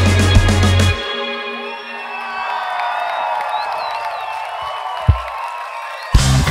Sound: audience cheers

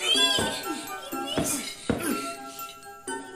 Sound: Young Dionisio grunting

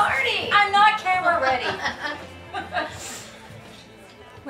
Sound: Julie laughs

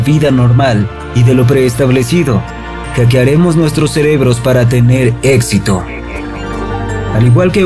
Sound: radio voice

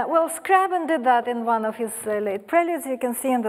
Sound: none

